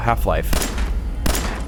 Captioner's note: blam!